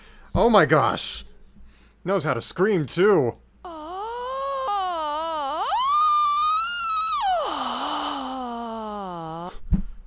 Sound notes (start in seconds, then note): 6.0 Pink Trombone screams again